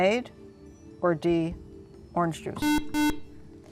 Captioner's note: buzzer